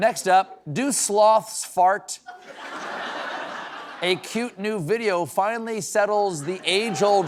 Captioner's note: normal voice